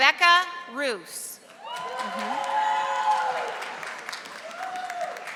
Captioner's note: audience applauding